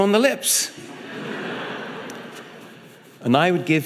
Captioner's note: audience laughing